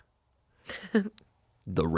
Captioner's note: laughs